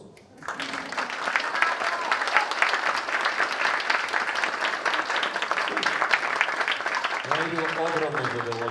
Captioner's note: audience applauds